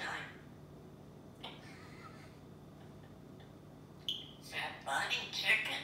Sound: bird softly laughing

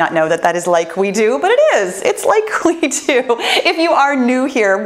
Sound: laughs

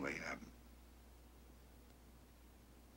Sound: on phone

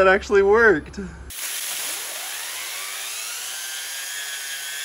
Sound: machine whirring

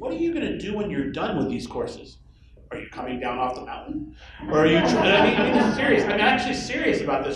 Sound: laughter

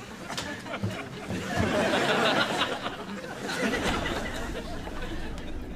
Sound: audience laughs

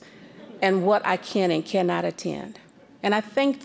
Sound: audience chuckling

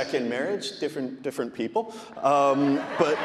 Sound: audience laughing

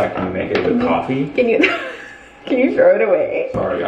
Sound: laughs

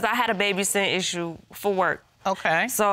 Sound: none

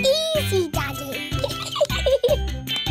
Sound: giggles

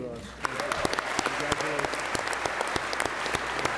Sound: applause

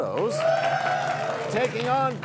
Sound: cheers and applause

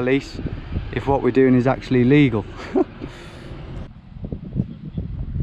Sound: laughing

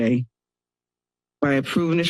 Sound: pause

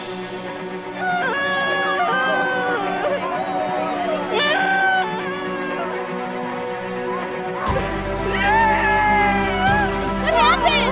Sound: screaming

